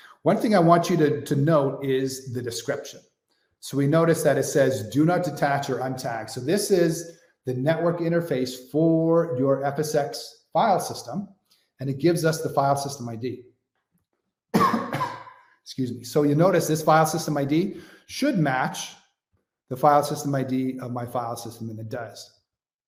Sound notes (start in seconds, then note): 14.5 coughs